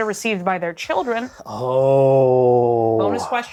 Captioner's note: ooohs